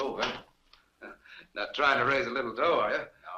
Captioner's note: chuckles